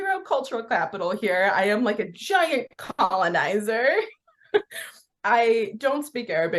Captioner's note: laughs